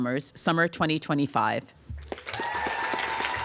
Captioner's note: applause